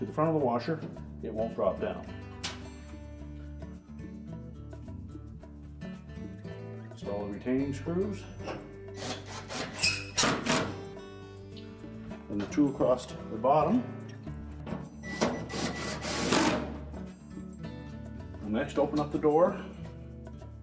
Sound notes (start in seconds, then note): 7.8 electric screwdriver